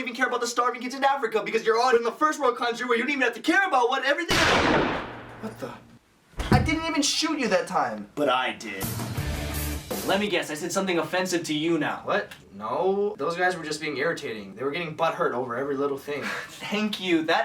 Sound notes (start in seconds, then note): 4.3 gun shot; 6.4 thud